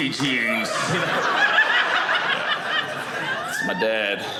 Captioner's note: audience laughing